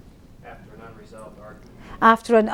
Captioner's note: voiceover